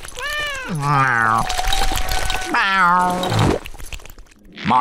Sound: meowing

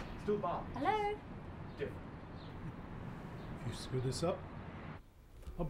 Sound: man muttering

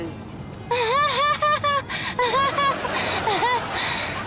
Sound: laughing

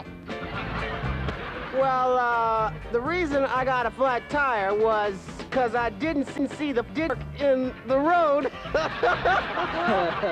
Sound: cute laugh again

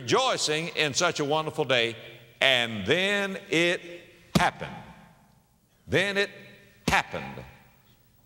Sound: slap; slap

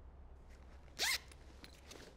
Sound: zip opens

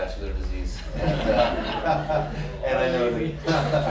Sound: laughter

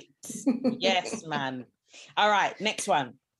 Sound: chuckles

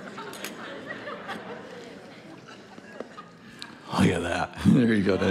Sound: congregation laughing

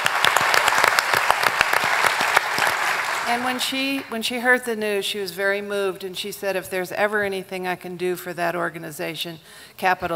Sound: applause

